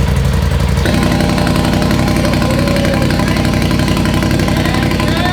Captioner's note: engine idling; engine idling louder